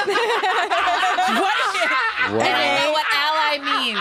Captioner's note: all laughing